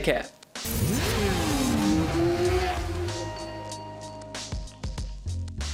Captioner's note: motorcycle engine roaring